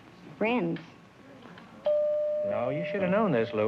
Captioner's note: bell dings